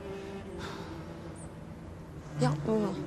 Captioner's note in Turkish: Nefes sesi